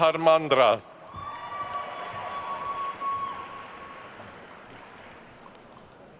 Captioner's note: attendees cheering and applauding